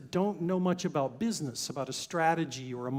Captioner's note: none